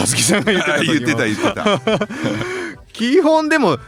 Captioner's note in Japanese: 笑い